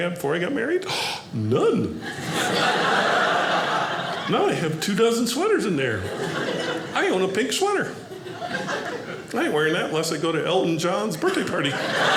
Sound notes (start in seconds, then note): 2.0 audience laughing